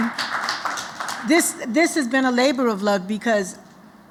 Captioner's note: applause